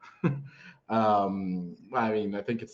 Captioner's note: chuckles